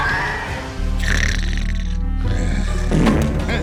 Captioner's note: snoring